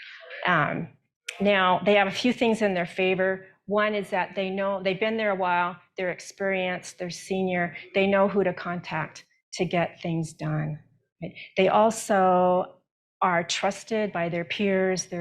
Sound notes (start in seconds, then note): none